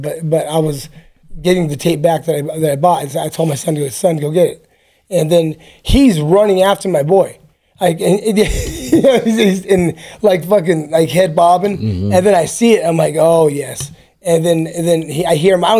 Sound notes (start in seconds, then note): 8.4 laughs